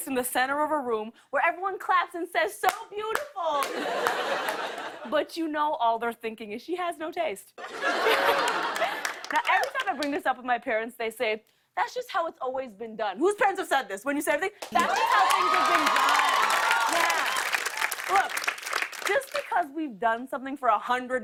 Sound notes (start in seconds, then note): 7.6 laughter; 14.7 cheers and applause